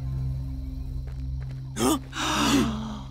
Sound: gasps

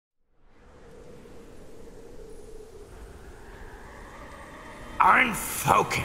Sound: wind Howling

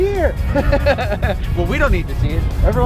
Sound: laughs

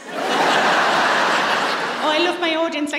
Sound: laughter

